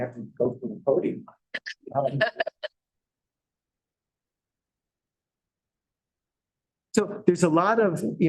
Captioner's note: laughter